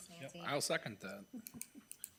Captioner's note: chuckling